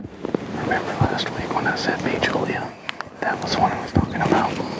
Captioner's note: whispering